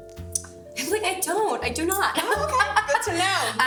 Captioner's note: laughs